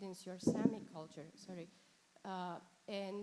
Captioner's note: mic scrapes